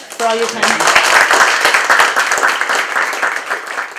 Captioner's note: applause